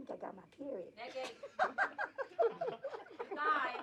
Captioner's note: laughter